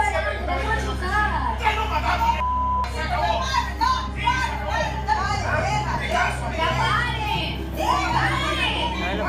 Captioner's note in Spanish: gritan